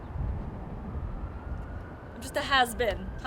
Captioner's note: siren blaring